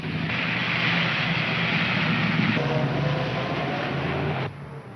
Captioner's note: engines rumbling